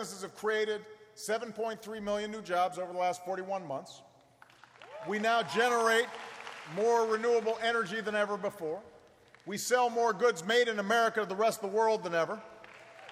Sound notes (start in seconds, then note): 4.4 applause; 12.5 applause